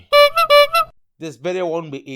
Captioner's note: honk honk